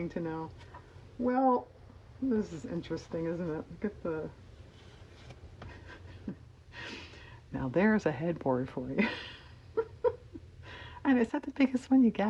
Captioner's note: laughs